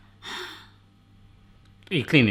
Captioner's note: breaths heavily